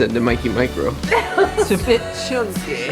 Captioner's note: laughs